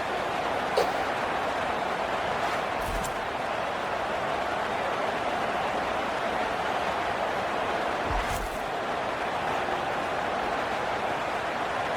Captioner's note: crowd Noises